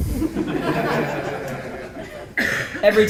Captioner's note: laughter